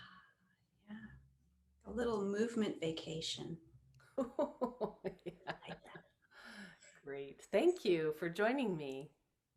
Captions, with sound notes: - Yeah. A little movement vacation. - (laughing) - I like that. - Great. Thank you for joining me.